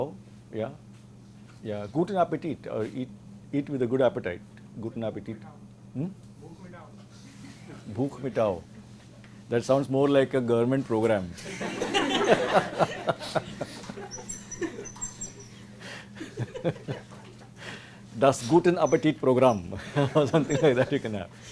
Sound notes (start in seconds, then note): 11.4 laughter